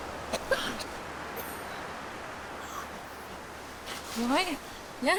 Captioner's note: Lily coughing